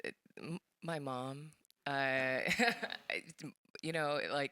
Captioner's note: laughs